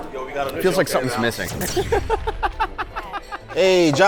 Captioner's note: graphics swoosh; laughs